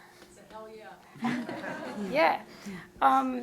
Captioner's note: audience laughs